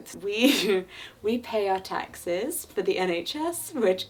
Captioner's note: chuckling